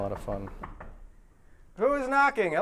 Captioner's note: knocking